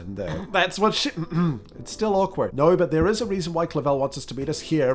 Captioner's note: stifle